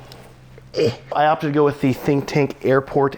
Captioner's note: grunts